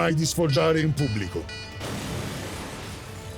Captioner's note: explosion blast